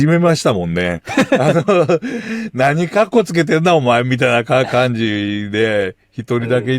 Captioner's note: laughs